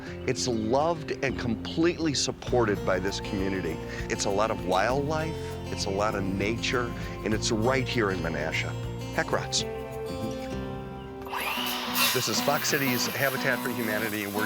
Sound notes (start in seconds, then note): 11.2 power saw running